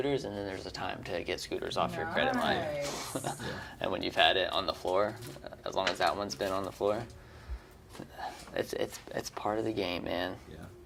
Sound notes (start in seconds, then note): 2.9 chuckles